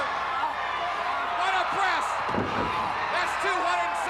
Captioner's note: Ric thudding on ring